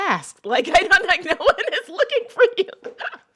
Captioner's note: laughter